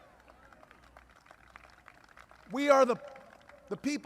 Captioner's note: applause